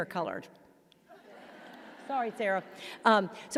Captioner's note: audience laughing